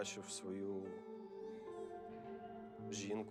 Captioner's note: baby crying